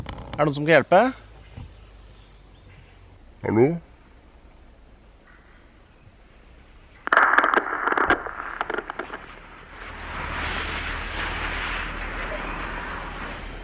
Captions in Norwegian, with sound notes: Er det noen som kan hjelpe? Hallo? [Skummel knitring]